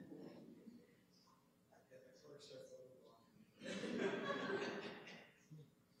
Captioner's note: chatter and laughter